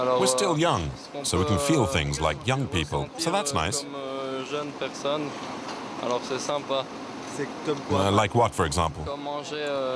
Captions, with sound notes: We're still young, so we can feel things like young people. That's nice. [French spoken audio] Like what, for example?